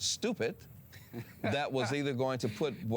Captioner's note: laughing